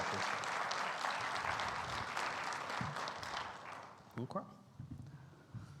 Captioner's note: audience applauds